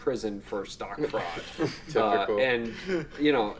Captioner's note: laughing